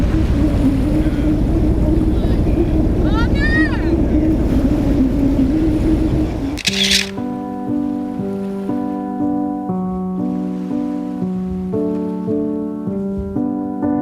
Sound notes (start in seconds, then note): 6.6 camera shuttering; 7.5 melancholic music